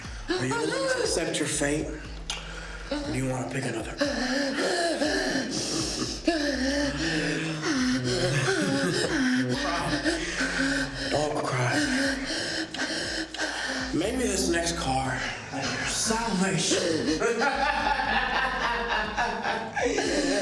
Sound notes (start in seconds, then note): 5.5 Mia panting; 17.2 Ben laughing